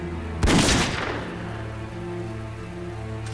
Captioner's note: gunshot